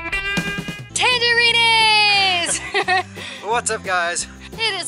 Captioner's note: laughter